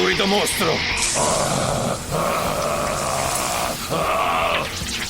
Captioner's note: horde shrieks